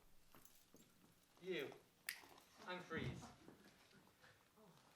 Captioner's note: snaps